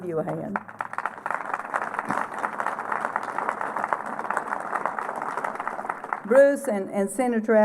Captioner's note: applause